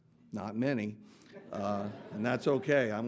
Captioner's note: audience laughing